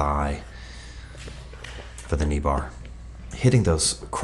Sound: hands slapping

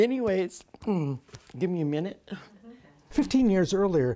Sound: clears throat

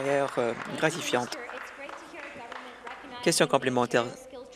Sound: applause

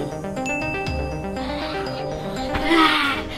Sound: notification bell ringing

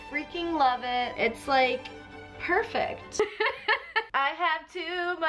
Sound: laughs

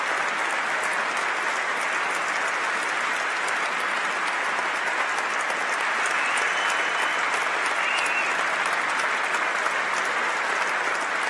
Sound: applause

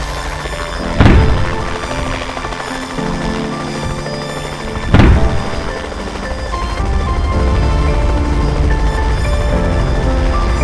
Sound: explosions

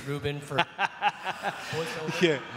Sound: laughs

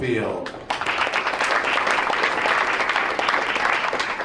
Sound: crowd applauds

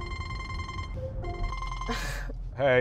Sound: phone Call

